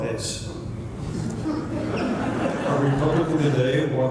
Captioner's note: laughter